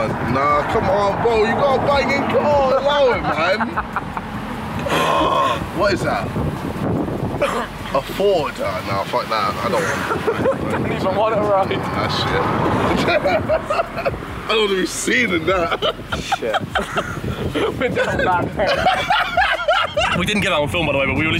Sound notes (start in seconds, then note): 18.3 laughs